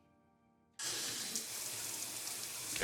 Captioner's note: shower running